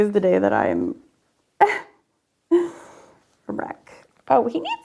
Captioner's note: laughs